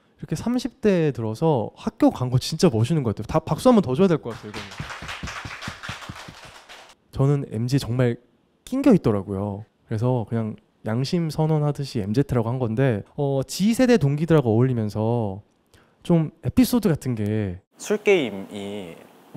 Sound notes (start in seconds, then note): 4.2 applause for the courage